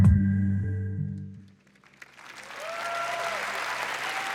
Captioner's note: applause